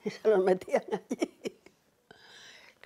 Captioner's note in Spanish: ríe